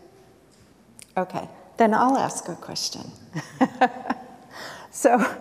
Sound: chuckles

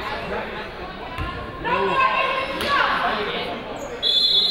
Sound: people shouting in the crowd; people talking in the crowd; whistle tweeting

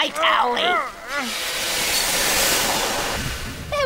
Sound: steam sighs

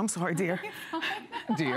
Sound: laughter

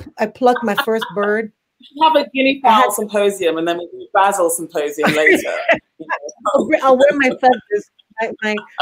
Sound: laughs; laughs

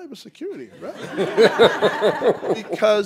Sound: laughter

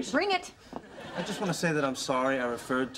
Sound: audience laughter

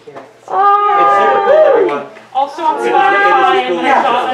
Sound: audience awws and woos

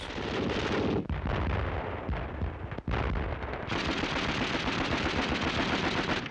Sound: guns firing and bombs exploding

